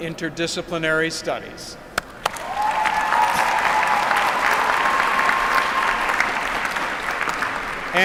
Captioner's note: applause